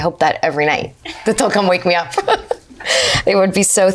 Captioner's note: laughs